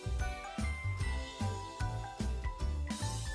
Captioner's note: none